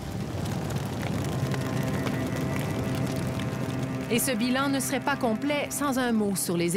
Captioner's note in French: bruit de flammes